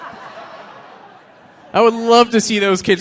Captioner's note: audience laughing